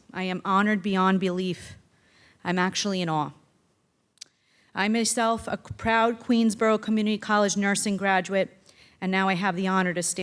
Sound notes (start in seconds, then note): none